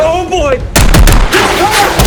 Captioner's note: gunfire